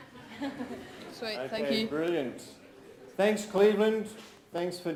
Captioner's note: audience and Presenter laughs